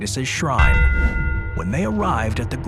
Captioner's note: bell tolls